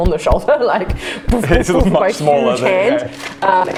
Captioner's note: boof